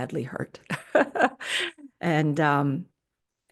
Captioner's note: laughs